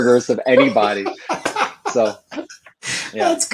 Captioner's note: laughs